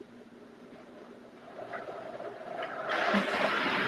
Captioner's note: blender whirring